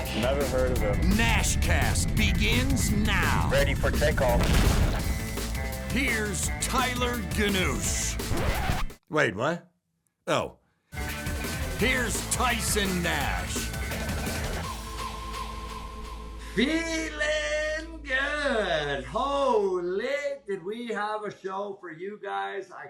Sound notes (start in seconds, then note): 4.7 explosion; 8.1 record scratch